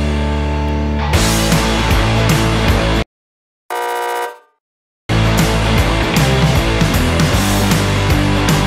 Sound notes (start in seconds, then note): 3.7 buzzer buzzes; 5.1 rock music